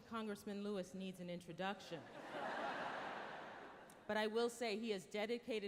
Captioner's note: laughter